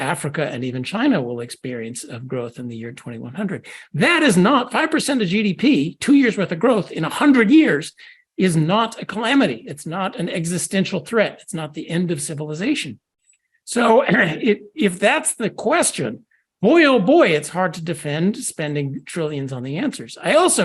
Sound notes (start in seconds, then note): 13.8 cough